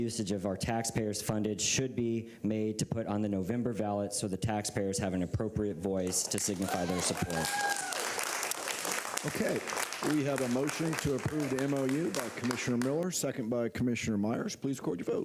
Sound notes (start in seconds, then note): 6.1 applause